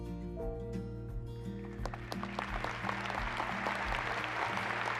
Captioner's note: applause